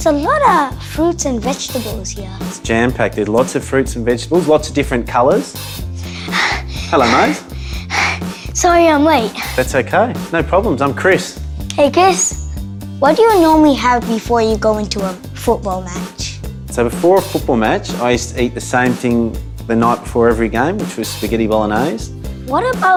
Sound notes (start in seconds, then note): 6.0 panting